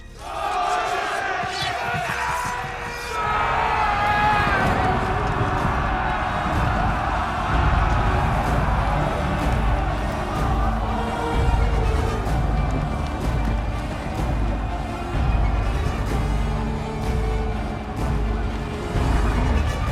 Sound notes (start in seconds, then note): 2.9 yelling